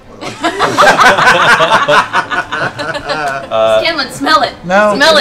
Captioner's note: laughter